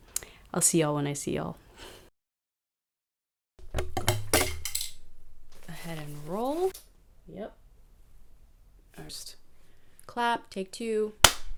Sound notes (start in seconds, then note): 11.2 claps hands